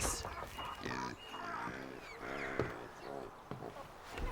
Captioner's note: pig snorting